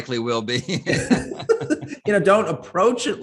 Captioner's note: both chuckle